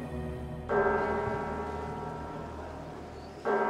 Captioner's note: sound of church bells